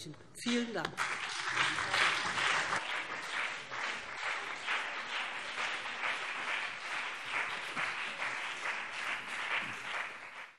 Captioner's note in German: Beifall BÜNDNIS 90/DIE GRÜNEN und CDU